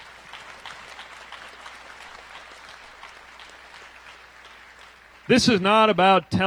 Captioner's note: applause